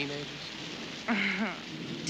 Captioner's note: chuckles